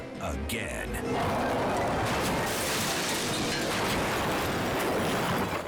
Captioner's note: motor cycle crashing